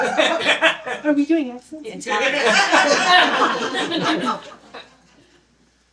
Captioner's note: stage whisper; laughter